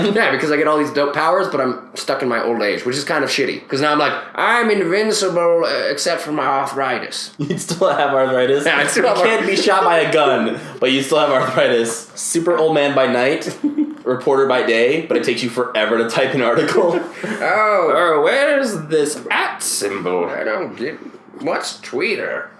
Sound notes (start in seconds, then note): 8.7 both laugh